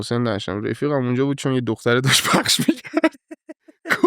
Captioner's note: laughs